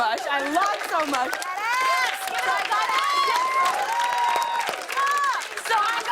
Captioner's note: cheers and applause